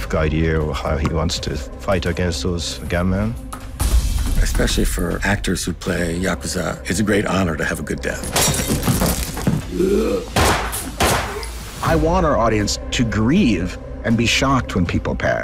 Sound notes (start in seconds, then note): 9.6 grunts; 10.4 gunshots